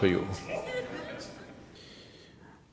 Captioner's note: laughs